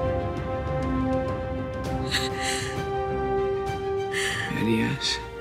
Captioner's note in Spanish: Solloza Nina